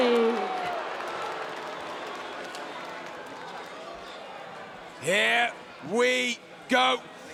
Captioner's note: applause